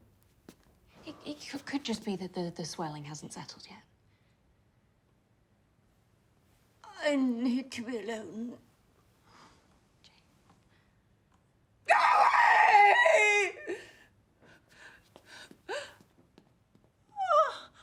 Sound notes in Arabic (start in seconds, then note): 11.8 صراخ; 13.7 ينتحب